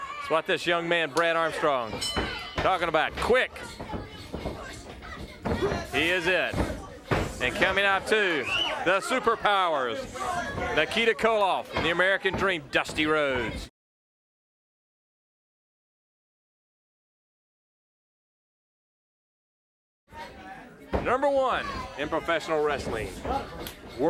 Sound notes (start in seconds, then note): 4.5 bell ringing; 5.8 footsteps plodding